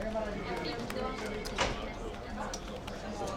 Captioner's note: chattering